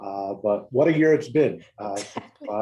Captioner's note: laugh